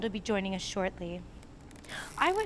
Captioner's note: ropes creak